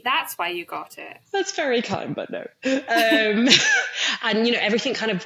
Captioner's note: laughs